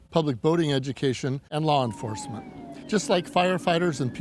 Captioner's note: sirens wailing